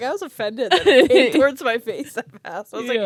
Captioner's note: laughs